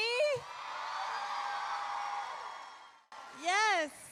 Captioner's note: crowd cheering